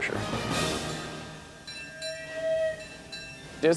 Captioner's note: bell dings/whistle blows